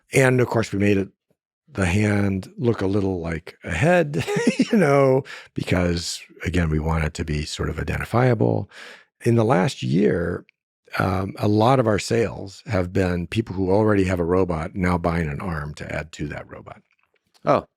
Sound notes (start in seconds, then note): 3.7 laughs